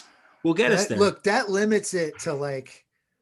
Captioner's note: sighs